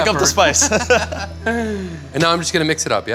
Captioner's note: both laugh